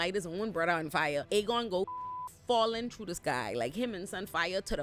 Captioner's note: beep